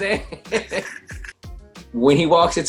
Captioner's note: laughs